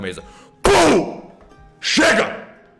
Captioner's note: slam